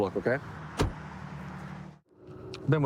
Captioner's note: door bangs